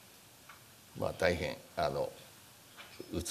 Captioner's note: speaking japanese